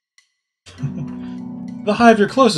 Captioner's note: chuckles